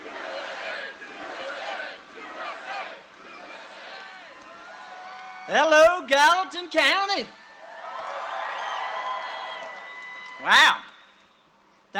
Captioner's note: cheering and applause; chanting usa